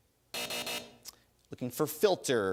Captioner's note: buzzer